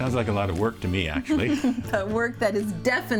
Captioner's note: laughs